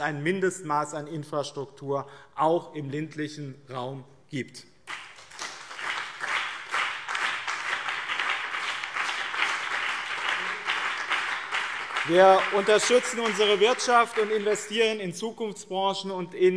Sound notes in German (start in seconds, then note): 4.8 Beifall BÜNDNIS 90/DIE GRÜNEN und CDU